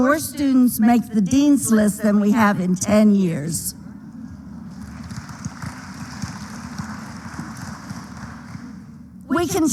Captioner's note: applause